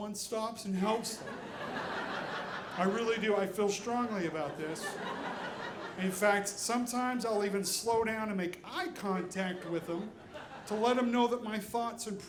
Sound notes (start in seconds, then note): 0.8 audience laughing